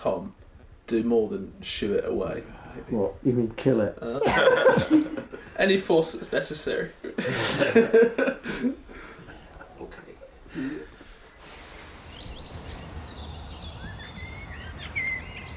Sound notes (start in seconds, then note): 4.2 laughter; 7.0 laughter